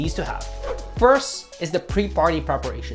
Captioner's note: whooshing sound